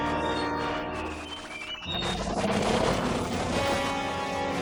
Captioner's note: Kaufo growls